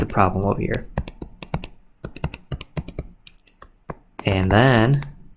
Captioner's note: computer mouse clicking